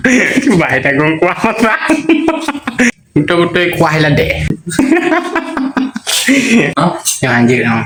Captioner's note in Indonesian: tertawa; tertawa